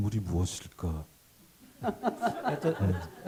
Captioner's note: laughter